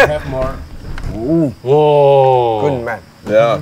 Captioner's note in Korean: 감탄